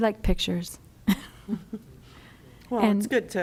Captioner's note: laughter